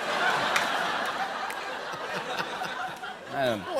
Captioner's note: laughter